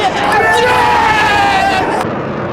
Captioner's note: cheering